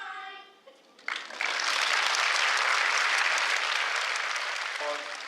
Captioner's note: applause